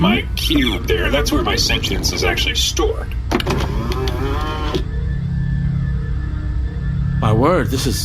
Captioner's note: Cube slot opens